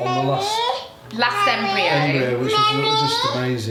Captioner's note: baby babbling